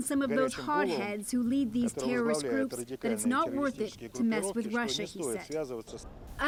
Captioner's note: speaking Foreign Language